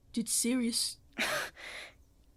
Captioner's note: Remus laughs, though the noise isn’t quite pleasant